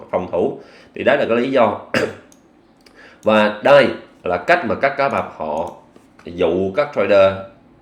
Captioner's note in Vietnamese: hắng giọng